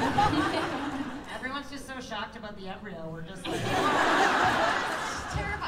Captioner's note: laughter; laughter